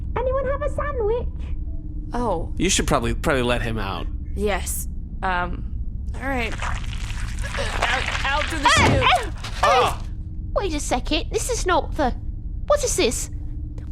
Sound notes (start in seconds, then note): 6.4 squelching sounds